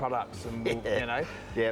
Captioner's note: laughs